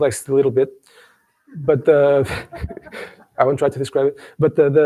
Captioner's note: laughs